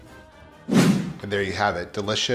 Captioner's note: swooshing